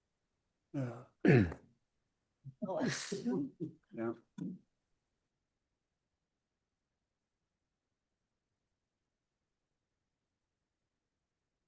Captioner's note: pause